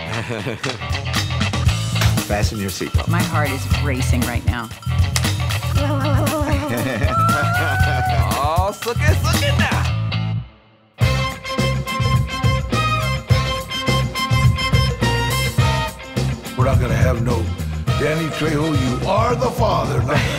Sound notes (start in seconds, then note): 0.0 Henry chuckling; 5.1 clapperboard clacks; 5.8 laughing; 9.9 bright lively music; 20.1 Henry laughing